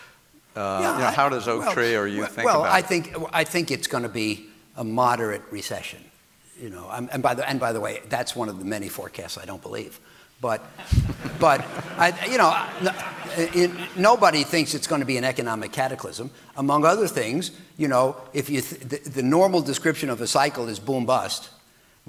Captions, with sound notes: - Yeah. You know. - How does Oaktree or you think about it? - Well, I think it's gonna be a moderate recession, you know, and by the way, that's one of the many forecasts I don't believe. (audience laughing) But, you know, nobody thinks it's gonna be an economic cataclysm among other things. You know, if the normal description of a cycle is boom/bust.